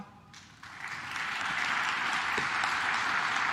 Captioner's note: claps